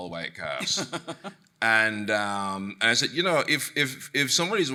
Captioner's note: chuckling